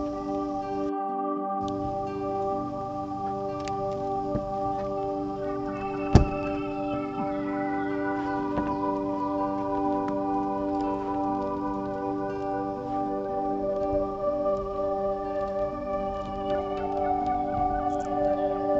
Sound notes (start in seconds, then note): 6.0 ambient music; 6.1 thud; 6.5 ambient music